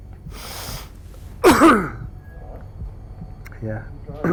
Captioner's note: coughing